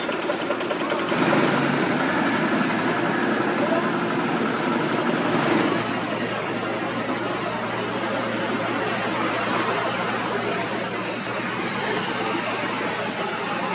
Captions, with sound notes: [Traffic Rumble] Road Construction Crew Spraying Liquid Asphalt Tack Coat Base